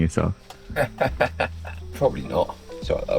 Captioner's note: laughs